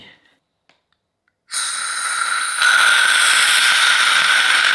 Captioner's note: bottle whizzing